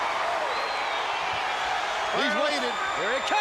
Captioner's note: crowd cheering